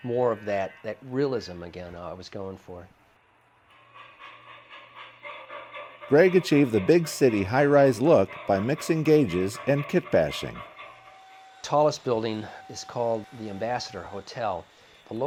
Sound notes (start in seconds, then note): 6.4 voiceover